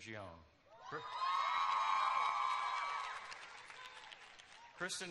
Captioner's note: cheers